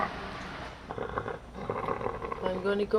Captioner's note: ragged, Wet Breathing